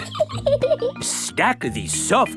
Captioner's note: laughs